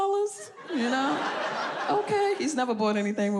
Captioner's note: audience laughs